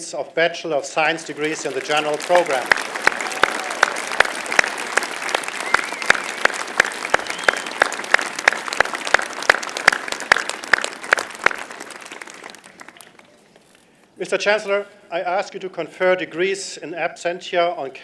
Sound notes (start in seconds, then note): 3.2 applause